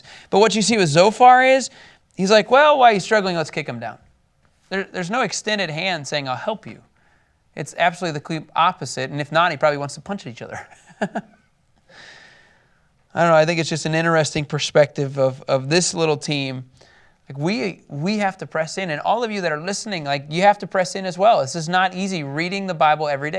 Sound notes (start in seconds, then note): 10.5 laughs